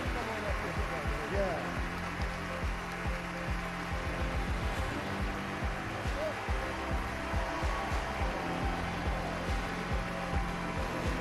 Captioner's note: applause